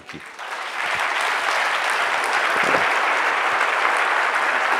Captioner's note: audience clapping